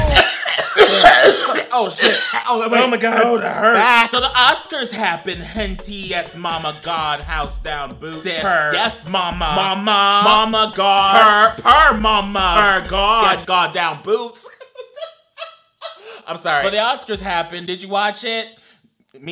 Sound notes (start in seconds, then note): 0.0 coughs; 14.2 laughs